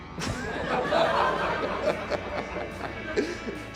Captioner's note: laughs